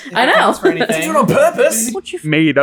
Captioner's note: accented